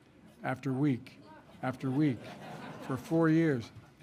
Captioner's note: laughter